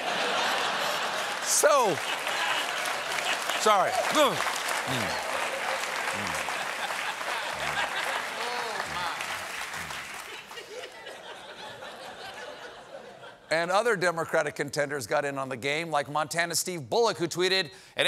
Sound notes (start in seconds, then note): 0.0 laughter; 0.2 applause; 11.7 laughter